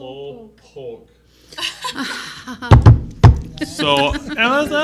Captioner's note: laughing